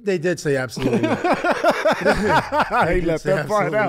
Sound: laughs

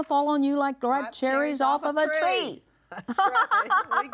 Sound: laughs

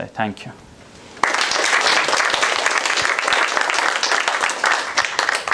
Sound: applause

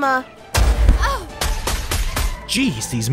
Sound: gun fires; grunts

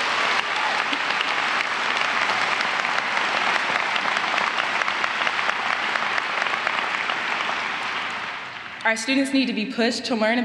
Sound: applause

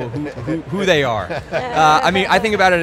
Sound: all laughing

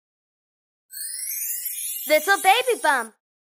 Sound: soft twinkling

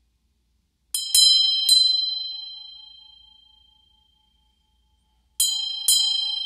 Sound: bells

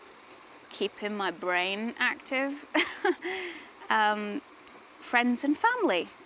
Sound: laughs

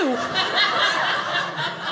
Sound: audience laughing

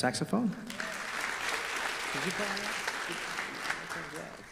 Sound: audience applause

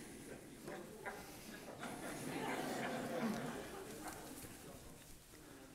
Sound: audience laughter

